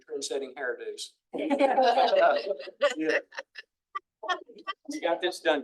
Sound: attendees laughing

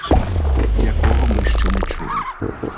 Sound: clicking

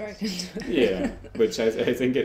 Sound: laughs

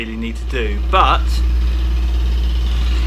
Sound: drilling noise from outside

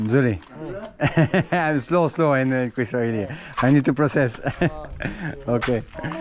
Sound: laughs

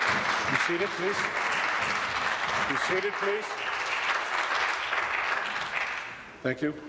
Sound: applause

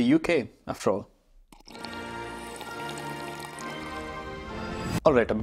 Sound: slurping; ceremonious music

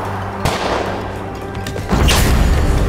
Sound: gunshot

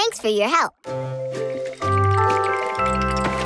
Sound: teeth chattering

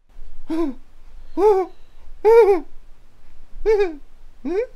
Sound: gasping nervously

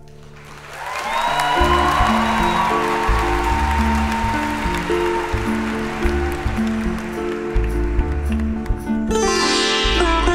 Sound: audience applauds

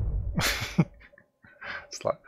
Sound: laughs

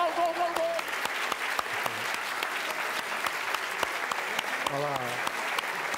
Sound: applause

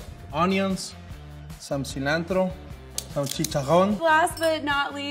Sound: speaking Spanish

